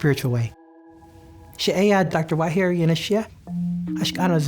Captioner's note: speaking navajo